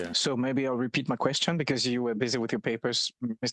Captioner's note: speaking French